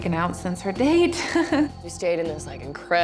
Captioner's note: laughs